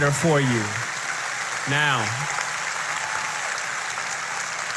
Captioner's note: applause